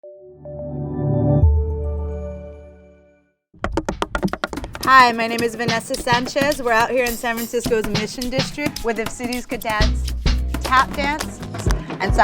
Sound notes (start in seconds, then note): 3.6 feet tapping